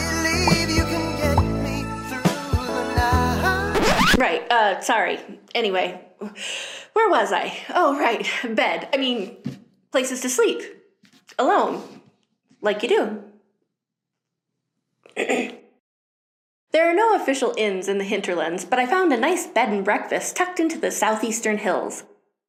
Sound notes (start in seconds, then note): 0.0 dreamy music plays; 3.7 record scratch noise